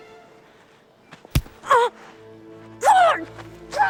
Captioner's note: grunts